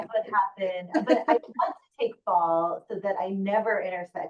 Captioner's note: laughing